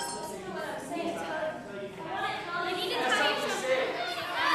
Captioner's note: crowd arguing